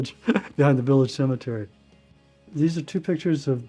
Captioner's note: laughing